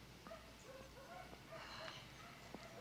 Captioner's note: exhales